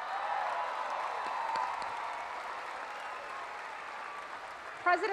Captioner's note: cheering